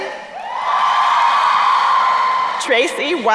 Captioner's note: crowd cheering